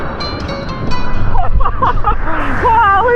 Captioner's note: laughs